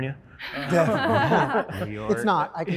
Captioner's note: participants laughing